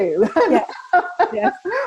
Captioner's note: laughs